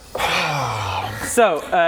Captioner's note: sigh